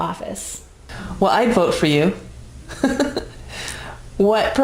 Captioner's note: laughing